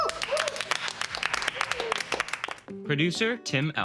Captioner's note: all clapping